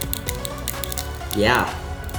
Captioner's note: crunching